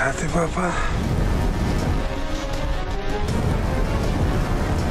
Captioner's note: speaking foreign language; dramatic music